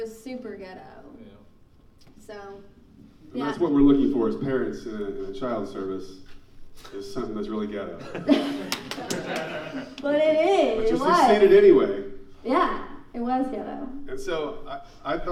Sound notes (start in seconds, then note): 8.1 laughing and clapping